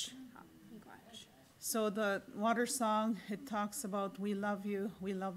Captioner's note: in English